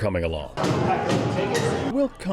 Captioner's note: hammer pounding